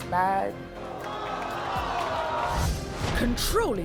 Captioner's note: crowd booing